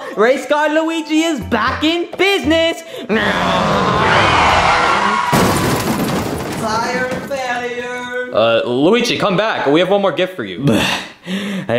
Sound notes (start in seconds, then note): 3.5 car engine revving; 4.9 tires screeching; 5.0 car bangs